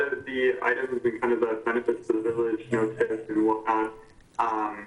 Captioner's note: murmurs